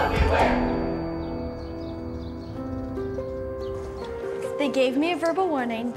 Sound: light music; crowd; birds chirping

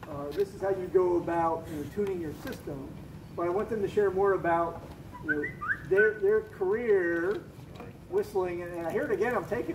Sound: phone whistle from audience

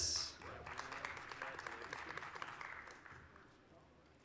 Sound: applause

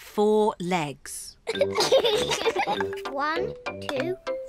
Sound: both giggle

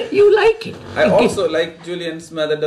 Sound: laughs

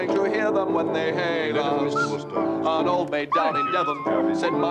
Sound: dog whines

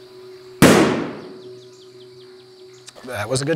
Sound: gunshot firing

